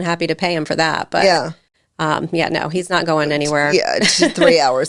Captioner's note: chuckles